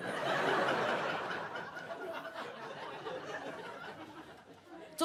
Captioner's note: audience laughs